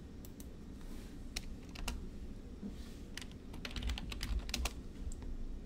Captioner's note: mouse clicks; keyboard typing